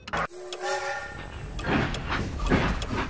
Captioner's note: train whistling; train chugging